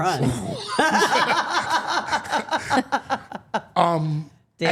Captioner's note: all laughing